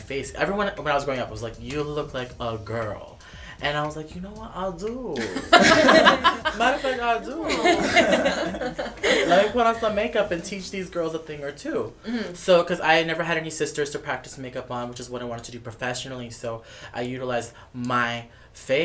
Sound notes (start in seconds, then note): 5.2 laughter